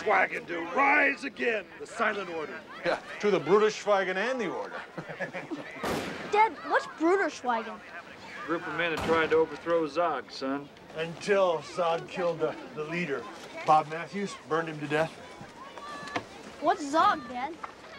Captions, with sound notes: TO RISE AGAIN, THE SILENT ORDER. YEAH. TO THE BRUDER SCHWEIGEN AND THE ORDER. [laughing] DAD, WHAT'S BRUDER SCHWEIGEN? A GROUP OF MEN WHO TRIED TO OVERTHROW Z.O.G., SON. UNTIL Z.O.G. KILLED THE LEADER, BOB MATTHEWS. BURNED HIM TO DEATH. WHAT'S Z.O.G., DAD?